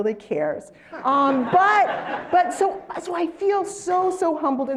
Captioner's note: laugh